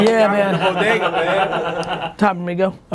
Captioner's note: laughing